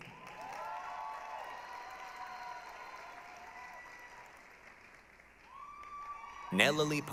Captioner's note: applause, cheering